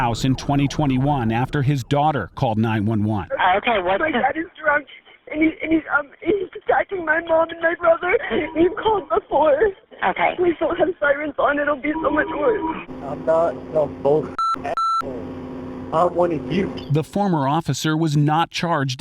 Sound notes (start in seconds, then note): 5.0 crying